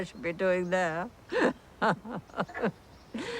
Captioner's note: laughing